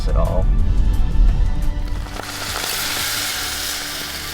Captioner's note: meat sizzling